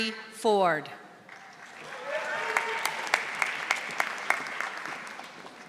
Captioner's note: audience applauding